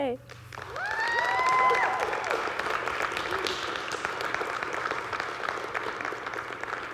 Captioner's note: audience clapping; audience cheering